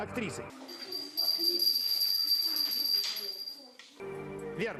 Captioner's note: bell sound